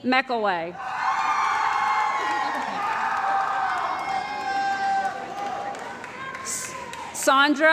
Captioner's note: cheering & Applause